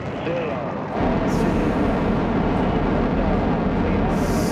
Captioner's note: engines roaring